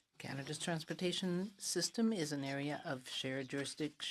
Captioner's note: speaking in French